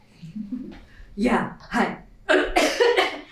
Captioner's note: gruffly; cough cough